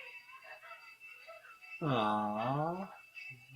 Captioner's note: rings bell vigorously; children sob quietly